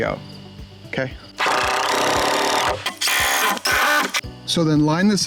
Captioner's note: loud drilling